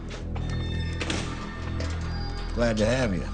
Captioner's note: door squeaking and banging